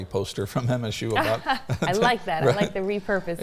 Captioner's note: both laughing